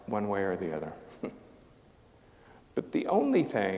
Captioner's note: chuckling